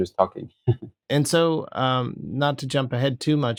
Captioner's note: laughter